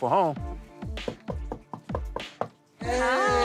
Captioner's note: knocking